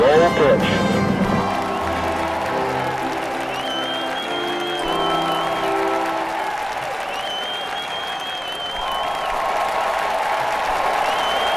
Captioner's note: 🎼 Patriotic Music🎵; 👏 Cheers😮